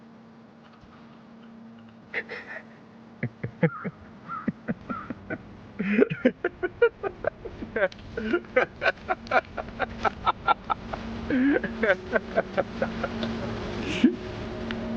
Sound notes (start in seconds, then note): 2.3 man laughs